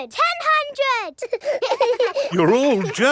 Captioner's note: children laughing